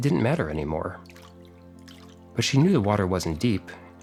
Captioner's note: water sound